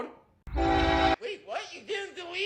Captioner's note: ns es44ac horn